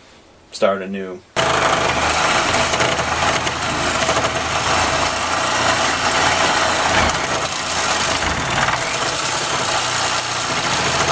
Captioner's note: sawing